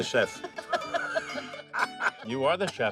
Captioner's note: laughing